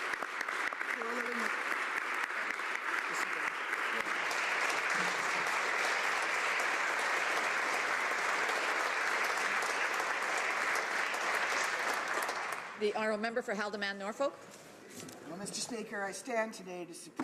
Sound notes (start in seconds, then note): 4.9 applause